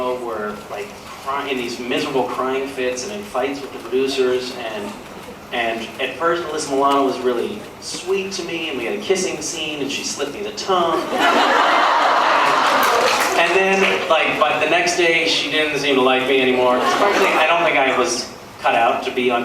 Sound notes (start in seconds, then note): 10.9 laughs